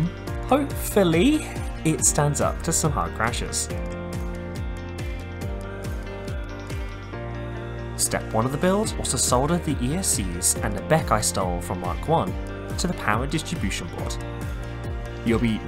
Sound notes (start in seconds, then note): none